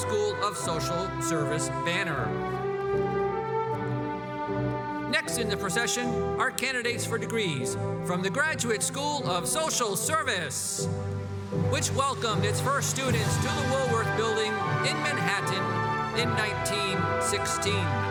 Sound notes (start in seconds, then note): none